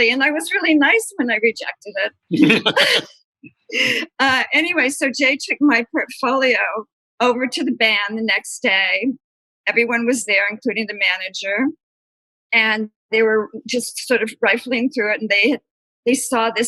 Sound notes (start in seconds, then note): 2.3 laughter